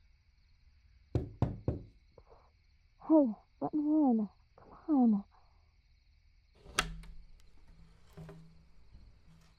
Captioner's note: night Ambience; knocking on Window